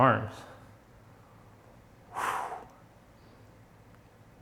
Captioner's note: sighs